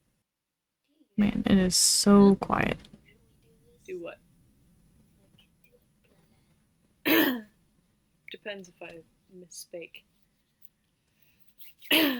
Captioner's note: clears throat